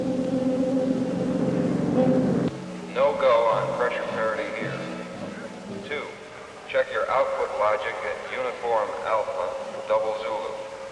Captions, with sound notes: - [Man on PA] No go on pressure parity here. Two, check your output lodging at uniform alpha double zulu.